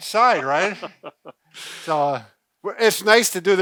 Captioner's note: laughs